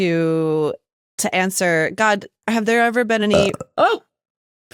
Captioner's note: burp